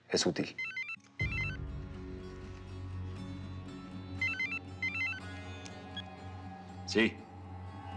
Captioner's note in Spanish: suena el celular